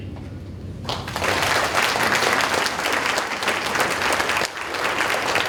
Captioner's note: audience applauding